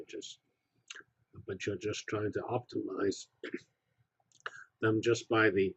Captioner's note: cough